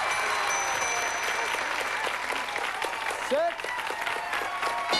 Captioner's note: applause